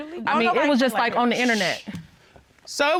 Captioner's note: Judge Keith shushes